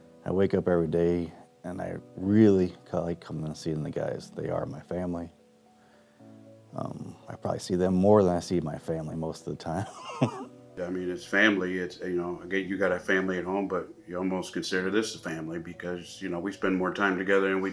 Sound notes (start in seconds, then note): 9.8 laughs